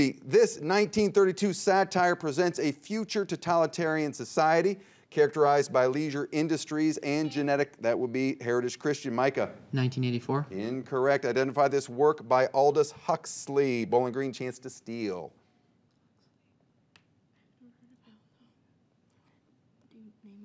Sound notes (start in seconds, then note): 7.6 buzzer beeps; 15.6 teammates whisper